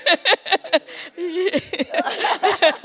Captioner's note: laughs